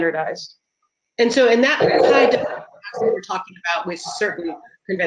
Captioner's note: murmurs